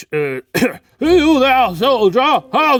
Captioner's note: coughing